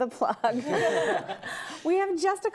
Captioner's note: everyone laughs